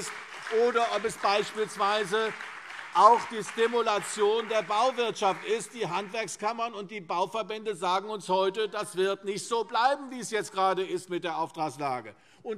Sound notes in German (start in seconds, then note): 3.2 Beifall CDU und BÜNDNIS 90/DIE GRÜNEN